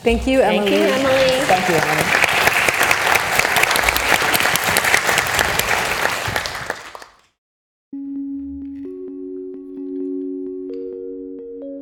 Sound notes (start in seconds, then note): 3.5 audience applauds; 7.9 gentle instrumental music